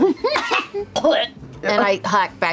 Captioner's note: laughter; gags